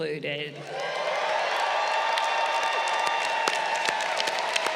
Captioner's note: crowd cheering